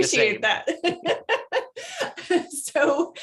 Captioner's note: laughing